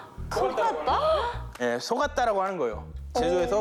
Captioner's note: surprised